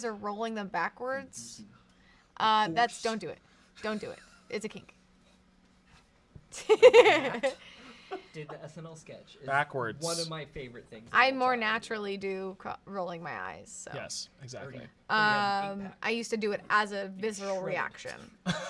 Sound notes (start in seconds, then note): 6.5 laughs